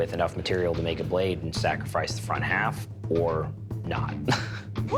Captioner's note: laughs